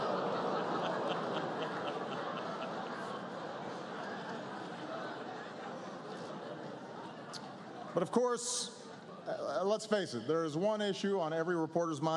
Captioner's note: laughter